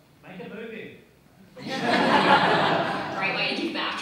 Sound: crowd laughing

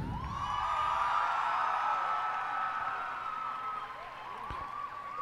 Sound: cheers and applause

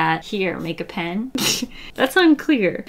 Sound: laughs

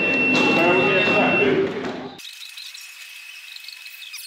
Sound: fast forward noise

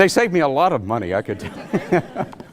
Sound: laughter

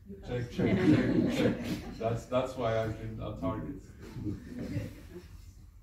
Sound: laughs

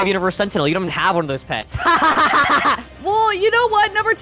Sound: laughs

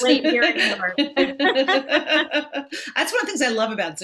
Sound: both laugh

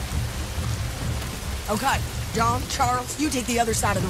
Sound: none

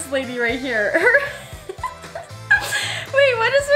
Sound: laughs

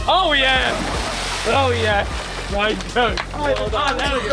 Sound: waters splashing

